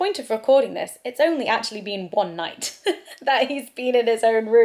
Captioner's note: laughs